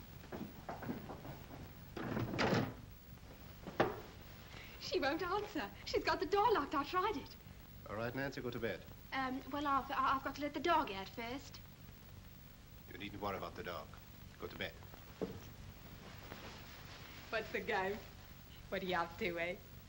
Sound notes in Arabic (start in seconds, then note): 0.2 خطوات على الدرج; 2.0 يغلق المكتب بصوت مرتفع